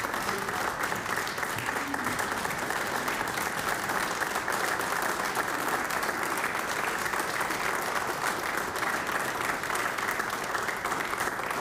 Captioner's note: applause